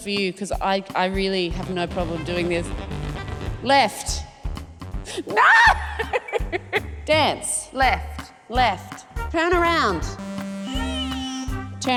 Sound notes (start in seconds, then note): 1.8 funky keyboard notes play; 5.4 laughs; 10.1 ascending keyboard notes play